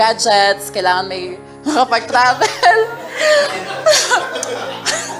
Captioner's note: laughter